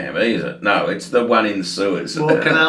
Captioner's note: laughs